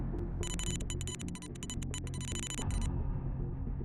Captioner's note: text beeping